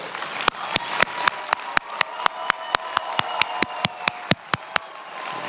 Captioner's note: many applauding